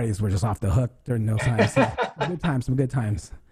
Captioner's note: laughs